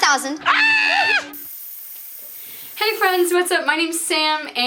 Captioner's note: static noise